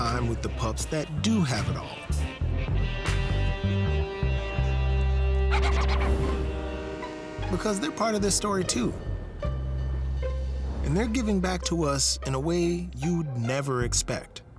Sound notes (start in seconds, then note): 5.5 dog barking; 6.0 train whistle